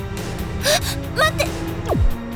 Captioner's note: gasp